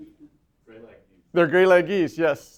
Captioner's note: laughs; voiceover